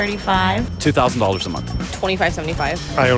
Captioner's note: cash register chiming